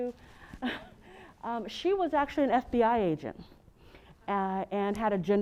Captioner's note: laugh